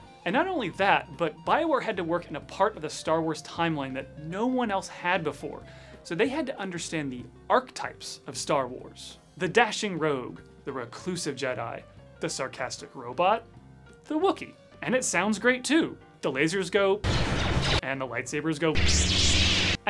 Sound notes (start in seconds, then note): 17.0 laser sounds; 18.7 light saber sounds